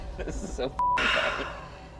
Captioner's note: beep